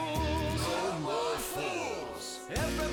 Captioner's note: crowd